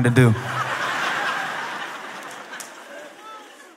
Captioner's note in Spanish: Risas